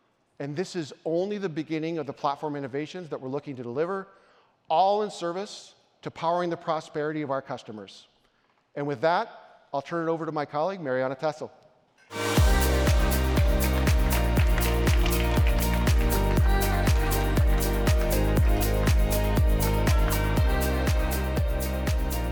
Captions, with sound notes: And this is only the beginning of the platform innovations that we're looking to deliver all in service to powering the prosperity of our customers. And with that, I'll turn it over to my colleague Marianna Tessel. (upbeat music) (audience applauds)